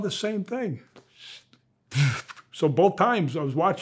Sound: mimics whizzing object

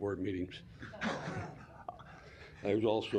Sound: laughter

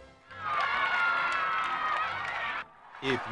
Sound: children cheering

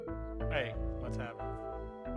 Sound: line trills

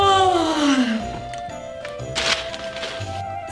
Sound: yawn

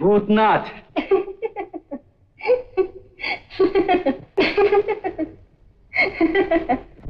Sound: laughs

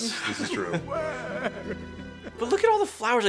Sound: wails

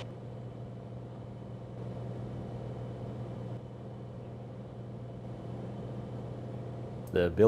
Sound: engine rumble

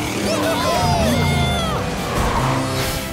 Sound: cheering

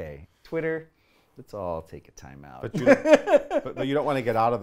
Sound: laughs

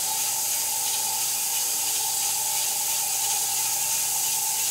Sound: saw whirring

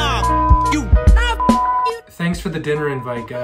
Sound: beep

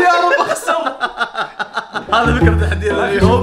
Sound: laughs

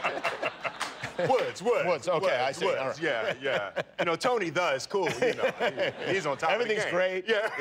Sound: laughter

